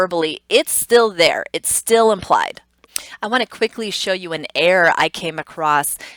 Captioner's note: tongue clicks